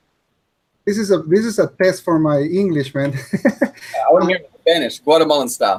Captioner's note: chuckles